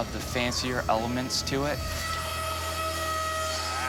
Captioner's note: machine whirring